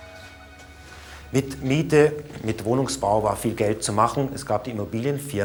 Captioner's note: speaking in German